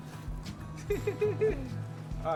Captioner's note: laughing